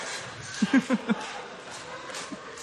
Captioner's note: chuckles